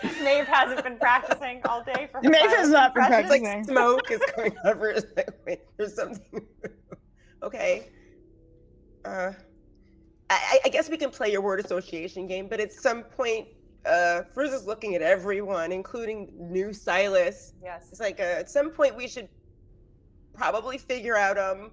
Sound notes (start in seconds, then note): 0.0 group laughing; 6.5 laughing